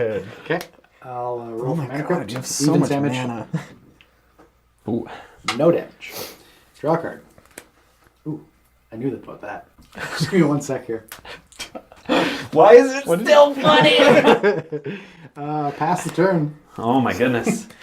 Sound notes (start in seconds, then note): 11.2 all laugh